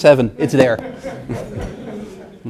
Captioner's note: laugh